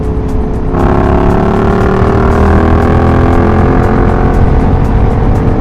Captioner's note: real motorcycle noises